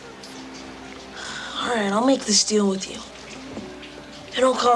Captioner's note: sighs